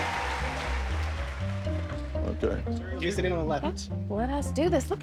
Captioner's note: indistinct chattering